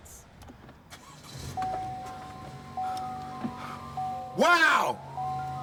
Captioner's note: engine revs